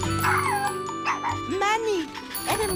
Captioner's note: barking